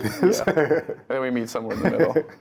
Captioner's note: laugh